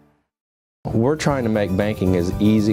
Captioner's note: voiceover